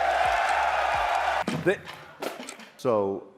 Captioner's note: applause; clocks ticking